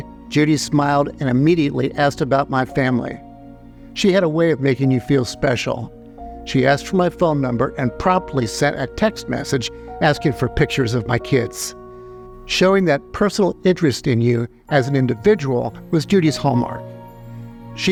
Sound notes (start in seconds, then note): none